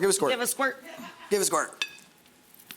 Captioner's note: audience member laughs